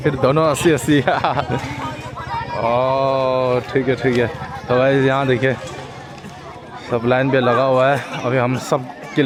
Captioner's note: laughing